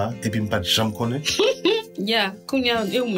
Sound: giggles

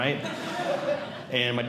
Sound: audience Laughing

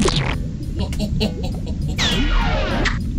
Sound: chuckles evilly

